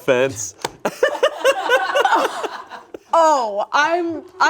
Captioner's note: group laughs